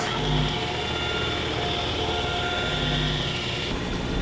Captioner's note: machine whirring